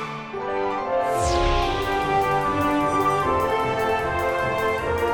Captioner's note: spaceship whirring